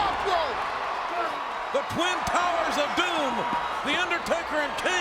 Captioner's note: applause